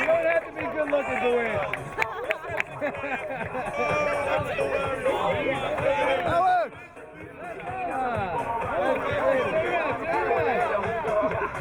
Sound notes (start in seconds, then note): 1.6 laughing; 5.5 rock music